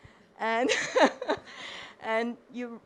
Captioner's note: chuckles